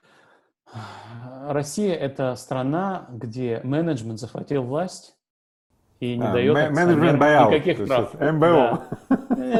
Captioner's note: laughs